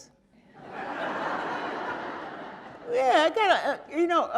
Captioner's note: audience laughing